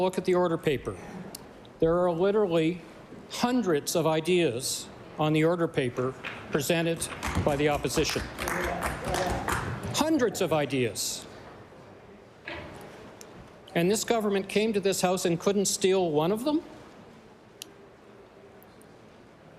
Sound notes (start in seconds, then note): 10.8 applause